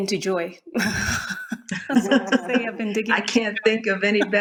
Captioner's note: all laugh